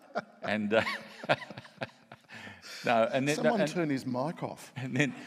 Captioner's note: laughs